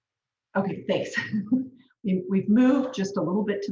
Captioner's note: chuckles